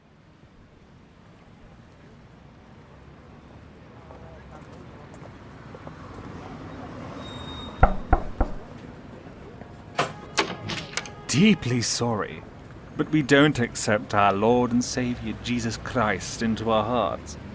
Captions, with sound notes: [TRAFFIC FADES IN.] [FOOTSTEPS.] [KNOCK ON DOOR.] [DOOR OPENS.] RAVEN Deeply sorry, but we don’t accept our lord and saviour Jesus Christ into our hearts,